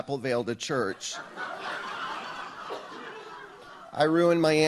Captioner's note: audience laughs